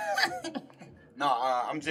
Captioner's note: laughing